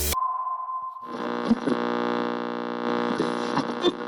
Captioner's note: static drones